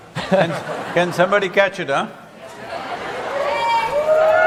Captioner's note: cheering/Applause